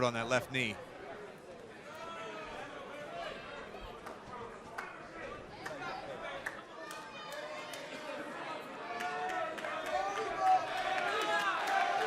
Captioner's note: crowd cheering